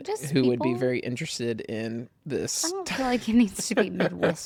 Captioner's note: laughs